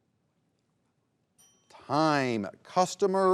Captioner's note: bell dings